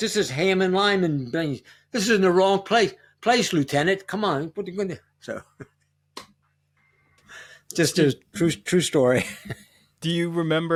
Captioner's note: laughter